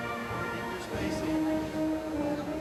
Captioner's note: none